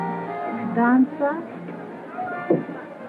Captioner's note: speaking portuguese